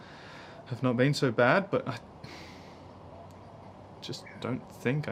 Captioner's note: sighing